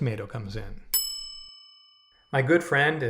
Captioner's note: bell dings